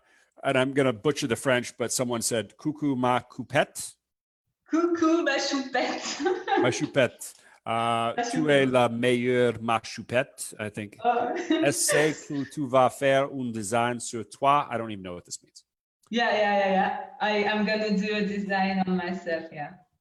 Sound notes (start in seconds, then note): 6.5 laughs